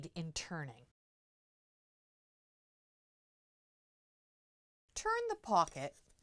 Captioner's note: no Sound Present